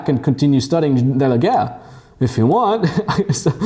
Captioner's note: laughs